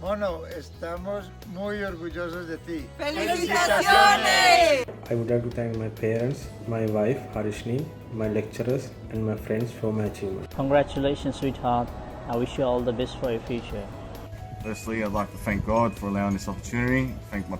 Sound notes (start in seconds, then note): 0.3 men and women speaking foreign language; 10.0 speaks faintly